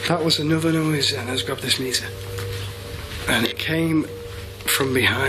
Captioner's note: none